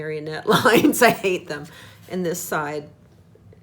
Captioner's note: laughs